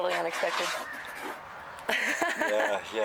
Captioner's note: laughs